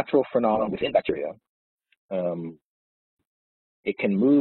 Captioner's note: audio distorts